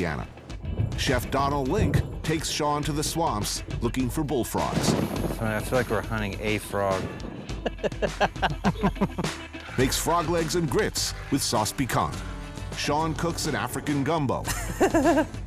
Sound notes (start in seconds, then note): 4.2 thunder rumbling; 7.5 laughing